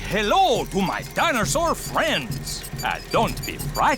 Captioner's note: none